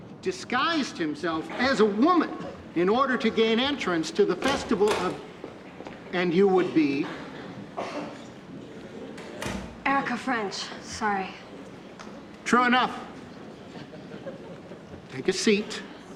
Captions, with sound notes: Disguised himself as a woman in order to gain entrance to the festival of... (DOOR CLOSES) And you would be... Erica French. Sorry. True enough. Take a seat.